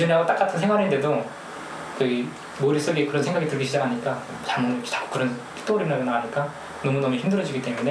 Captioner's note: speaking in foreign language